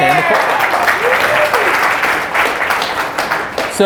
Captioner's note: applause